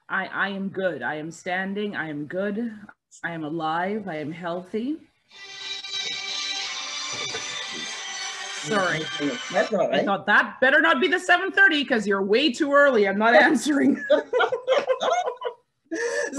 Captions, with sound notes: - I am good, I am standing, I am good. I am alive, I am healthy. (mobile phone ringing) Sorry, I thought that better not be the 7:30 'cause you're way too early, I'm not answering. (all laughing)